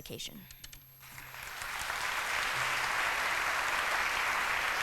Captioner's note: applause